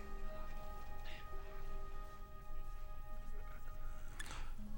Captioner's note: labored Breathing